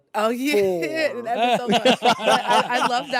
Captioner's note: all laugh